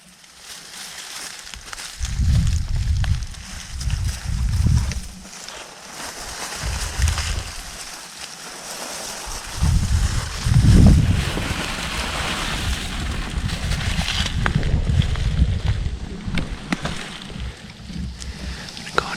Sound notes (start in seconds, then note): 2.1 wind